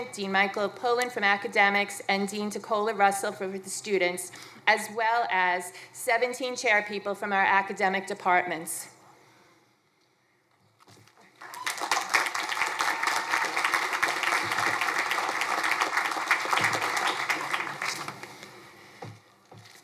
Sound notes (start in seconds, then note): 11.3 crowd cheering